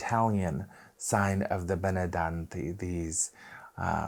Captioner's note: speaking Italian